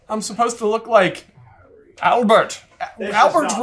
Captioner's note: accented